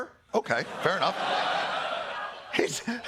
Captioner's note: laughter